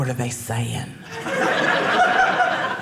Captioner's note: audience laughing